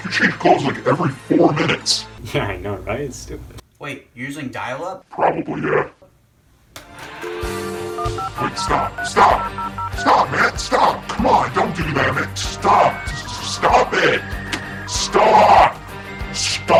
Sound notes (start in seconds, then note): 6.8 numbers dialing; 7.0 ring tone